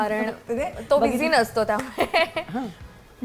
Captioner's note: chuckles